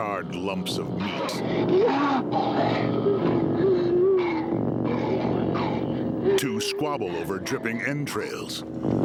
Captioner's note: munching and slurping